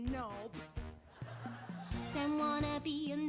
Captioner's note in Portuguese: audience laughing